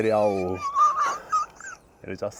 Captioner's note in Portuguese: risos